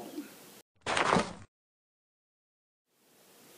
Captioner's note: crashing